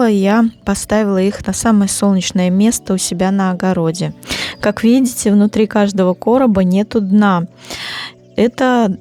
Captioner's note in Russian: фыркает